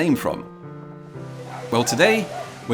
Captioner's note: dog barking